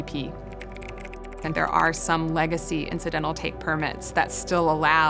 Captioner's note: typing sounds